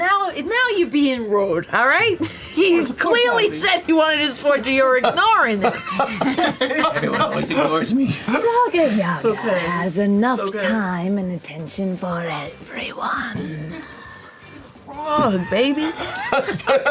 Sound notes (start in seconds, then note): 4.8 laughter